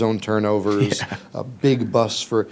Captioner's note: chuckles